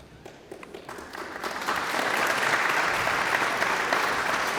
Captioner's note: audience applauds